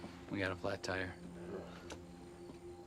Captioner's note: Ben groans; crickets chirping; tense music